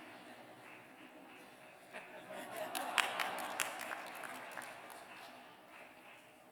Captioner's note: laughter; applause